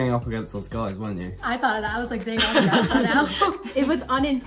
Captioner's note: laughter